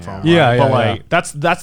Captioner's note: affirmative murmuring